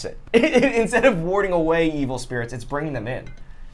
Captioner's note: laughs